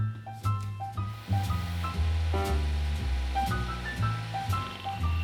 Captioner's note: upbeat music; machinery whirring